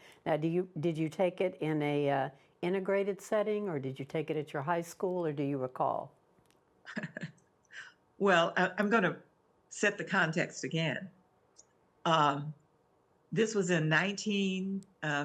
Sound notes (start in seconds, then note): 6.9 laughs